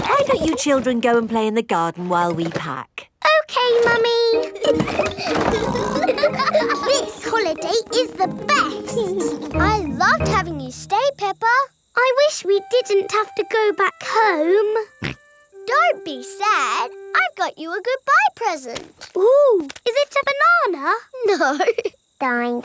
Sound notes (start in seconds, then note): 0.0 children laughing; 4.4 laughing and snorting; 14.7 snorts; 21.5 laughing